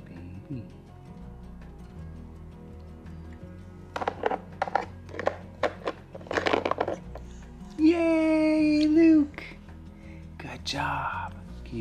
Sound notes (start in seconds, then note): 0.8 soft instrumental music; 3.9 objects hitting